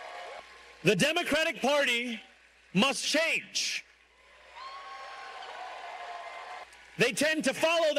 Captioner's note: cheers and applause